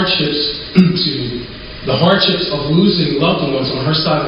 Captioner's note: coughs